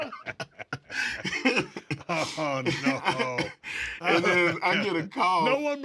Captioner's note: laugh